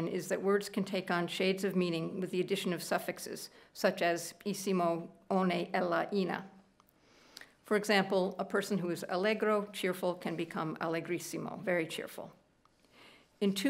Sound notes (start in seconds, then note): 5.7 speaking italian; 10.9 speaking italian